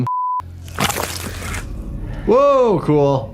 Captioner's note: Termite splashing